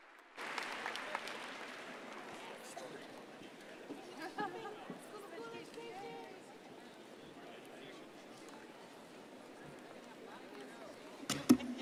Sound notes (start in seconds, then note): 2.5 crowd chattering